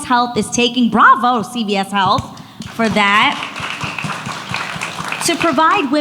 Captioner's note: audience applauds